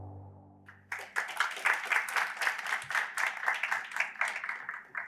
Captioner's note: applause